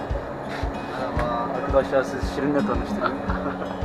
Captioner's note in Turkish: Gülüyorlar